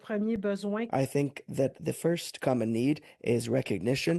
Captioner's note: speaking French